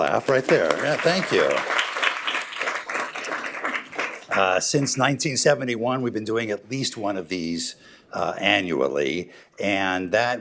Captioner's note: applause